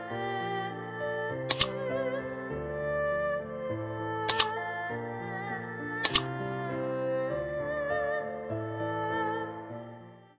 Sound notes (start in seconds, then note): 3.8 click; 8.8 gentle music